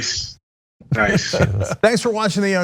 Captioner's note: laugh